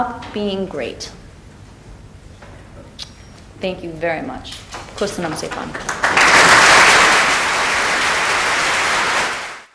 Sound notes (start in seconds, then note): 5.2 applause